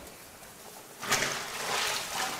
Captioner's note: splashing